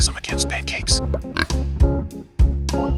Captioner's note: pig grunt